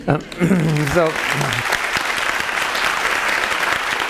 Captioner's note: audience clapping